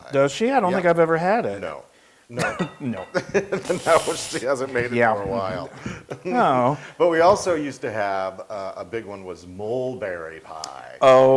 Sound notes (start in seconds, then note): 3.3 laugh